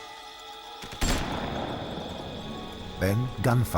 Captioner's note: gunshot echoes